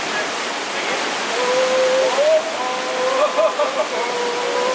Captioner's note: laughing